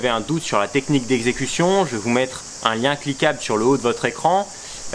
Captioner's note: in french